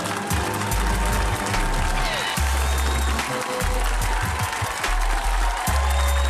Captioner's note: audience applauding